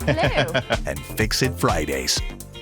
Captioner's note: laughs